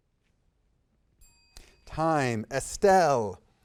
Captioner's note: bell ringing